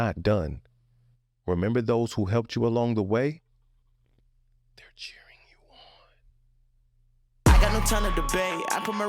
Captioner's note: whispering